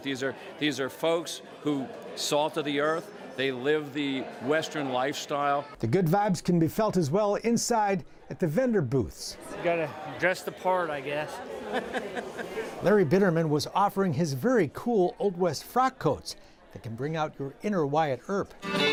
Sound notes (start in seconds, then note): 11.4 laughs